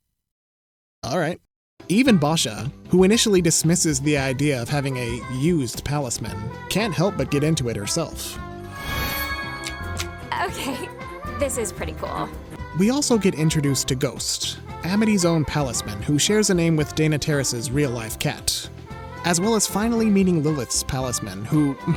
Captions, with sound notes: All right. Even Boscha--who initially dismisses the idea of having a used palismen--can't help but get into it herself. [magical chiming] - Okay, this is pretty cool. - We also get introduced to Ghost-- Amity's own palismen who shares a name with Dana Terrace's real life cat-- as well as finally meeting Lilith's palismen who--